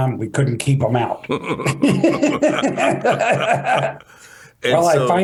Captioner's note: laughter